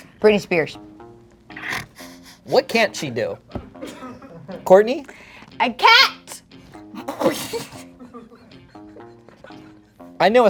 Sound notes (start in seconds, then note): 1.2 intense music; 1.2 snickering; 3.7 chuckling; 6.9 snickering; 6.9 chuckling; 8.8 intense music